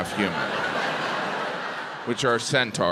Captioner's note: crowd laughs